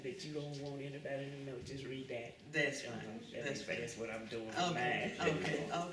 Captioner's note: laughs